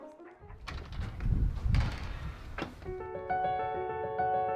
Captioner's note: door Opens